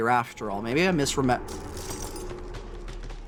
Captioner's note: glass crackling; howling